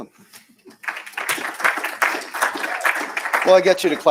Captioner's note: applause